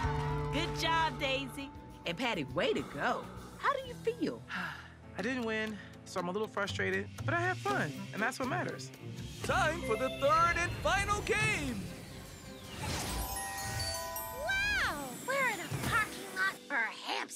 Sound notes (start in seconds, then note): 4.5 sighs